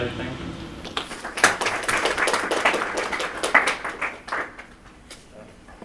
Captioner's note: applause